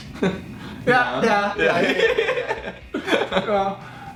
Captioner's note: laughing